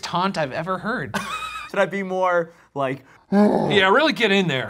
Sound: laughs; grunts

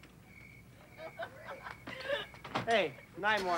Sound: laughing

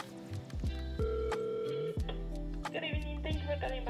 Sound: phone rings

